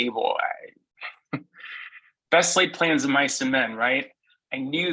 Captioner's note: laughs